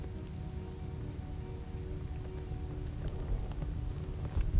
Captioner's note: leaves rustling